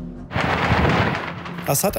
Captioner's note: gunshots